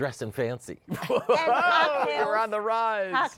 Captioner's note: laughter